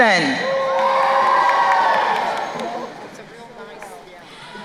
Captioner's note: crowd cheering